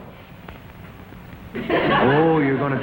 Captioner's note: audience laughs